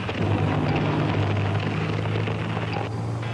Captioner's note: tank roaring